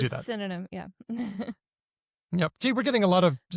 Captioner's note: chuckles